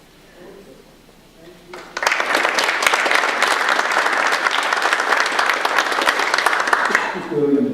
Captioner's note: audience applause